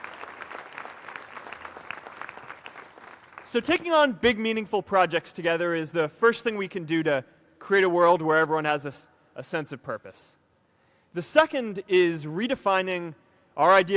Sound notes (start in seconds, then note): 4.9 applause